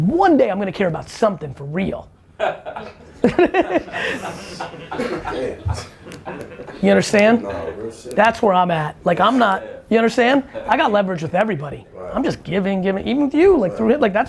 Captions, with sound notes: Because one day I'm going to care about something for real. (laughter) - Damn. - You understand? That's where I'm at. Like I'm not. You understand? I got leverage with everybody. I'm just giving, giving, even with you, through him.